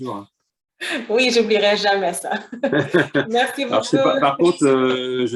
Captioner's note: laughter